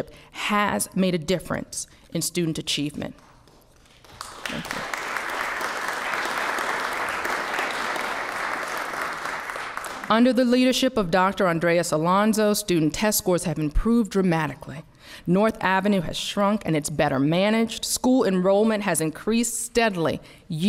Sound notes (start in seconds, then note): 6.6 applause